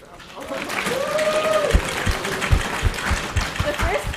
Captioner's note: applause